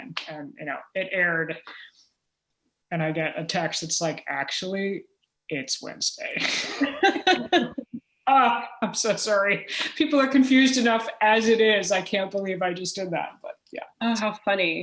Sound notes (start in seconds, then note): 6.4 laughter; 6.4 chuckle